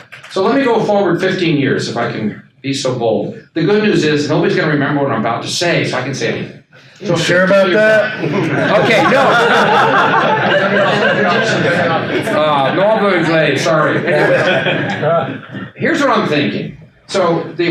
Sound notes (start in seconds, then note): 9.3 attendees laugh